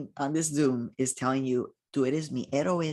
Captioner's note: speaking in foreign language